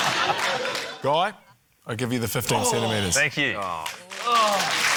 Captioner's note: laughter; groans; cheering, applause